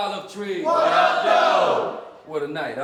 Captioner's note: crowd